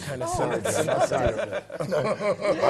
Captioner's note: laugh